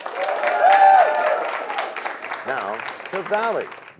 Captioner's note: cheers and applause